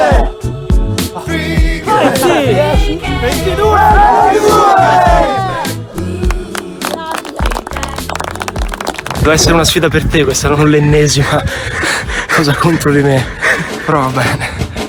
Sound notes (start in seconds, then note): 6.2 applause